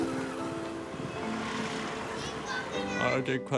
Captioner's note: traffic sounds